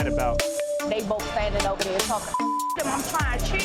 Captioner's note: beep